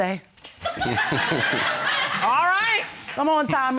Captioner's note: audience laughing